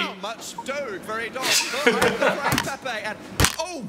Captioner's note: both laughing